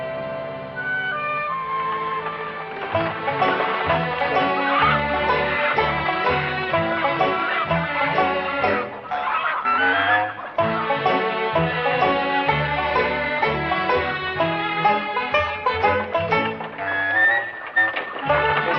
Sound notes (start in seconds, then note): 2.8 bright country music; 6.6 chicken clucking